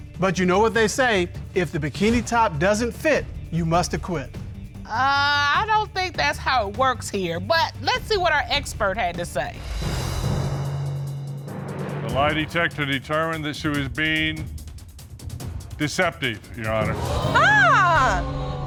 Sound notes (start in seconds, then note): 16.8 audience gasps